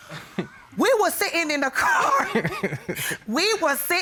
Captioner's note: Kamal laughs